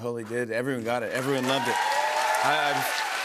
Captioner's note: cheers and applause